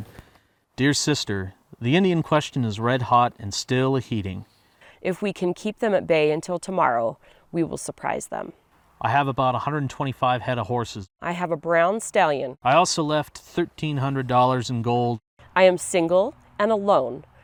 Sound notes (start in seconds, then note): none